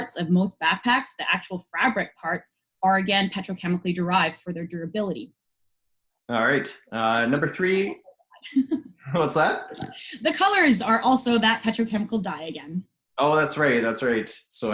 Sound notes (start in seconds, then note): 7.5 laughing